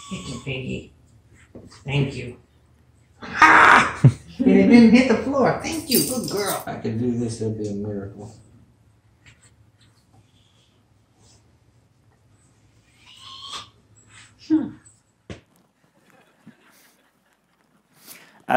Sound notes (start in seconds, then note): 3.2 screams; 16.0 audience laughs